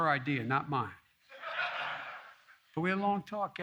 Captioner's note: laughter